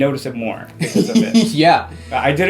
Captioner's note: giggles